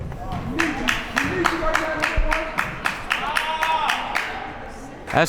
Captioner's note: crowd members talking; crowd members clapping